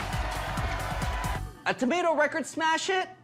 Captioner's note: crowd cheering